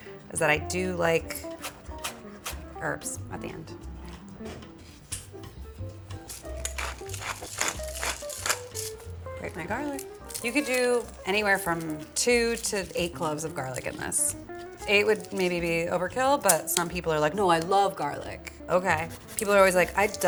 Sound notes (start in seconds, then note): 4.5 gentle music; 4.5 pepper mill grinding